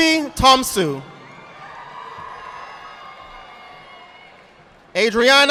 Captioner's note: audience applauding